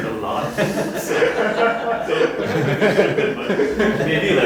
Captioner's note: students laughing